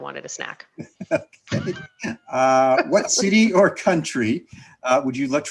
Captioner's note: both laughing